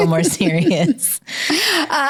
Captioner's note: both laugh